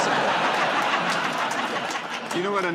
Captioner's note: laughter